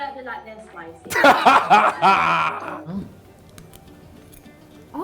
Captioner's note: laughing